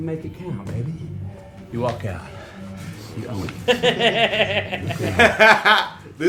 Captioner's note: audience laughter